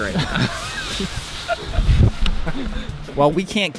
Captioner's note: all laughing